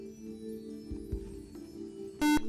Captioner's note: buzzer